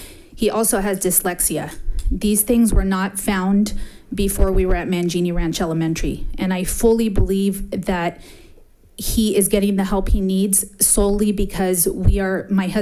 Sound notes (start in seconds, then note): none